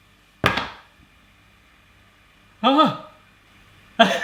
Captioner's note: clattering; laughing